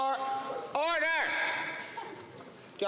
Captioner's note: conversation din